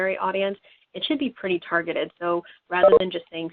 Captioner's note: beeping